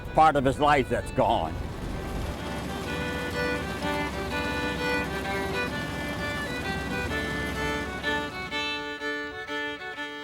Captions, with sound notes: that's part of his life that's gone. (fiddle music continues) (tractor roars)